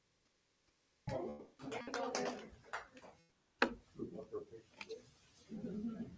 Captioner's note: attendees chattering